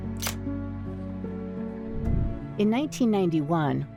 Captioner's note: melancholy music continues; camera clicks